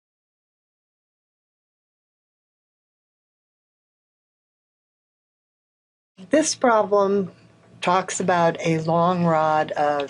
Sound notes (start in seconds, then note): 1.9 brief silence